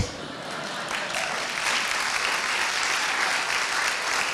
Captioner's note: applauding